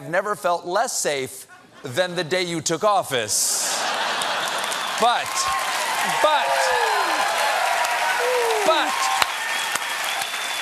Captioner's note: cheers and applause